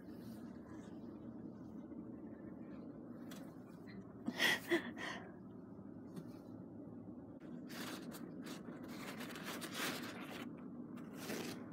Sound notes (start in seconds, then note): 3.8 gasping as slipping onto the bed, in fear of falling